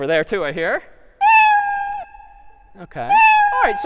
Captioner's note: meow